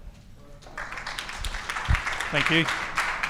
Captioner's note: audience clapping